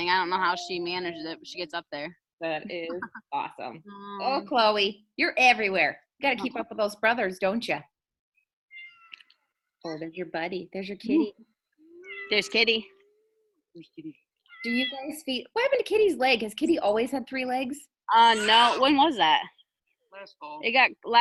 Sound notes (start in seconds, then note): 8.7 cat meows